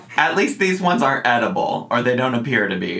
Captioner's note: none